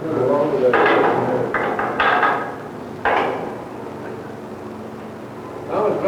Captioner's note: cell gate clanking